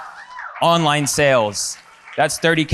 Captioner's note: audience cheers and applauds